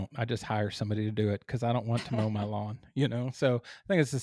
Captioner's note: laugh